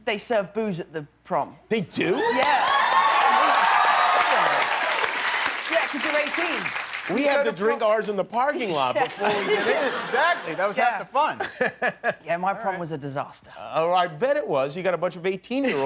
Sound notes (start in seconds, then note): 6.6 cheering and applause